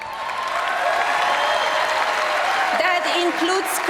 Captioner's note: applause